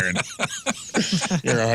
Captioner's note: laughing